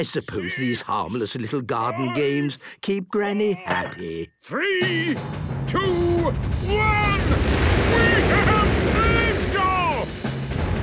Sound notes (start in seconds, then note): 7.1 rockets igniting